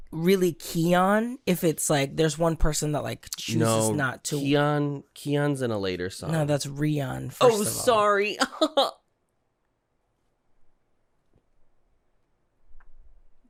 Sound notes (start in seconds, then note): 8.7 guffaw; 9.1 silence